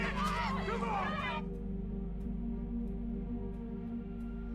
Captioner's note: crowd